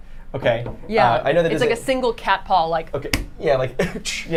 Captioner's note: smacks wall